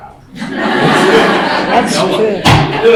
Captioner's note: laughing